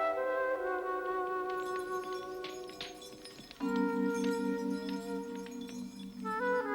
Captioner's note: mysterious music; fire crackles